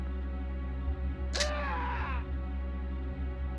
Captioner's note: clown Dying Noises